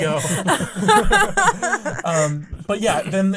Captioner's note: laughing